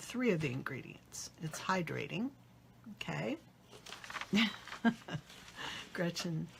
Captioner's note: laughs